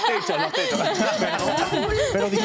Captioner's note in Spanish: Risas